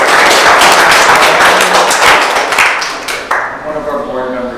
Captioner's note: audience clapping